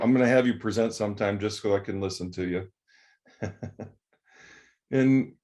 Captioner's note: laughs